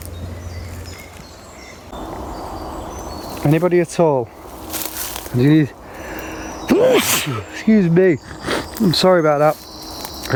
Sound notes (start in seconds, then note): 0.1 birds chirping; 4.3 leaves rustling; 6.7 sneezes; 9.3 birds chirping